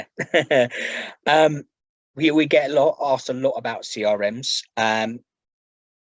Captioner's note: laughs